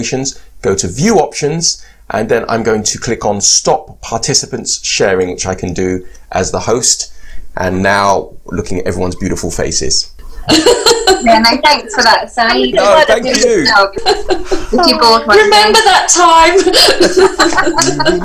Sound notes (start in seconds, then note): 11.2 participants chatting and saying goodbye